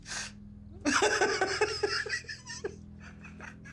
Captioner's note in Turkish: Gülüyor